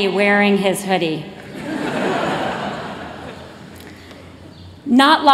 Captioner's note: laughter